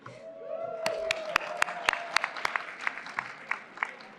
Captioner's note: applause